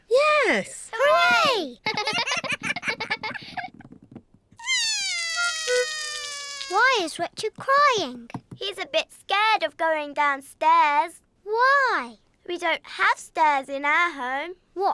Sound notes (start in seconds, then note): 4.6 cries